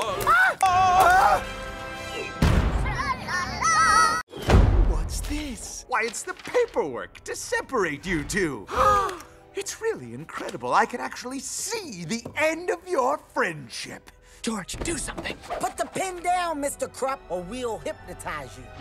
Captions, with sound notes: La- AHH! Laa!-- Aagh! [THUMP!] - Tra-la-laa! - Tra-la-laa! - Tra-la-laa! [BANG!] What's this? Why, it's the paperwork to seperate you two! [Gasp] It's really incredible, I can actually SEE the end of your friendship! George! Do something! Put the pen down, Mr. Krupp, or we will hypnotise you!